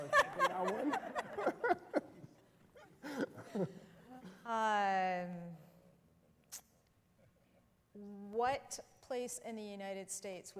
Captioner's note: laughter